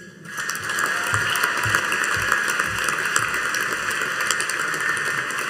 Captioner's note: audience cheering and applauding